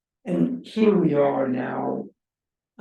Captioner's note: none